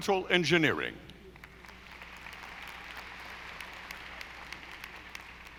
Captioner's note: audience applauding